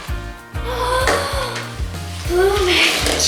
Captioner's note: children gasp